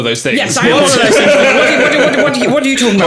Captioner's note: laughing